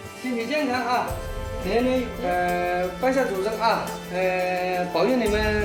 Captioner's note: hablan un idioma extranjero